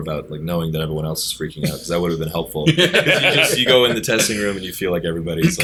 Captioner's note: laughter